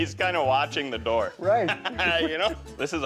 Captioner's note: laughs